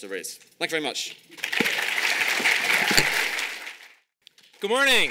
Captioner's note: audience applauding